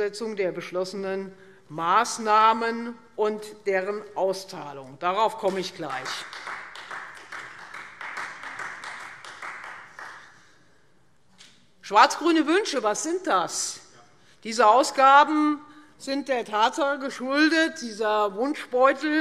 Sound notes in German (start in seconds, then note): 5.8 Beifall Freie Demokraten